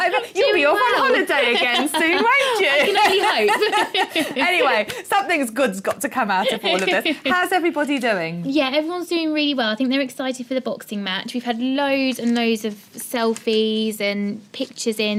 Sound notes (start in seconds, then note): 0.0 laughing